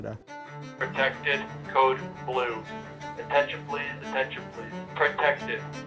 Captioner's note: voice on speaker